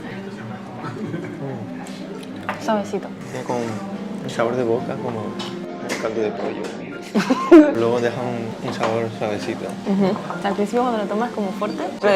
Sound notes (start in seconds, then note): 7.0 laughter